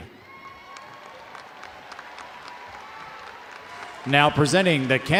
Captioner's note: audience applauding